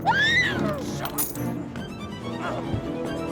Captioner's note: Brooke screams; keys clatter; dramatic music